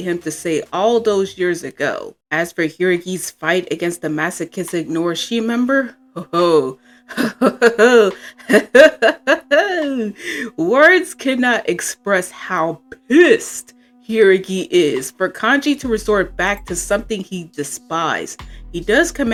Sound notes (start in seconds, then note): 8.4 chortle